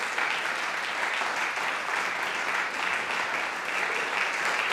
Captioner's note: audience applauding